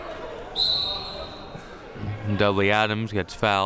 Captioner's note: whistle blowing